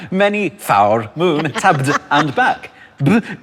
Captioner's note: laughs